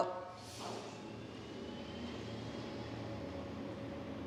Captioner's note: truck whirring